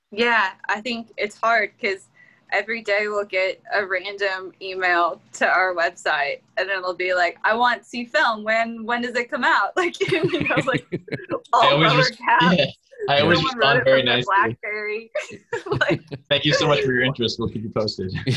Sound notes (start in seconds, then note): 10.0 laughter